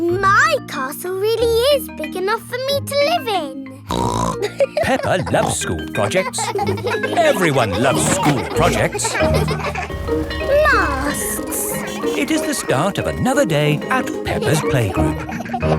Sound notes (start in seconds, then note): 4.0 snorts and laughs; 6.9 children laughing; 9.9 bell ringing